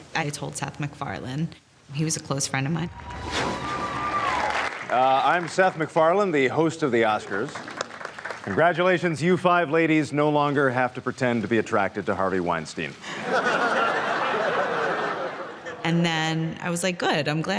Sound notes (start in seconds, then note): 2.9 cheers and applause; 13.0 laughter